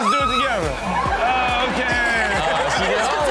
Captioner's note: audience laughs